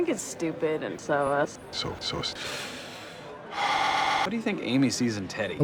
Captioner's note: deepest breath